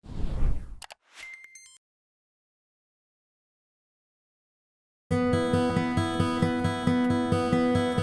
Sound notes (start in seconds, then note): 0.0 air swooshing; 1.1 button clicking and beeping; 5.3 slow music